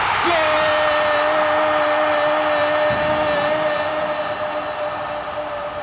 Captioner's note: crowd roaring